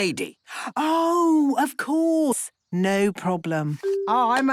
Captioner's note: none